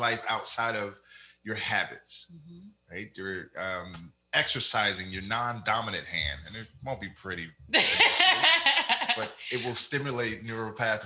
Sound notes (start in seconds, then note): 7.7 laughs